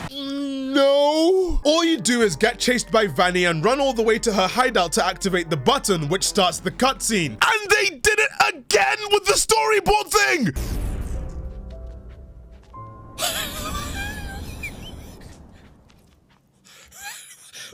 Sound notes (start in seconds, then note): 13.2 wheezing